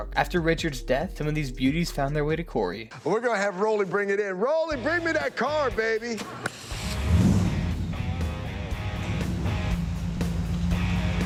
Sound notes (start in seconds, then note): 6.4 car engine revs; 6.8 upbeat rock music